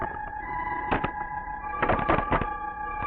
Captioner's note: rattling